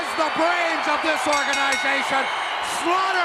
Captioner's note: bell dinging